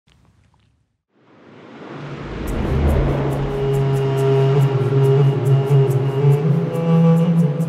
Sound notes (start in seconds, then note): 1.2 wind blowing; 4.1 mysterious music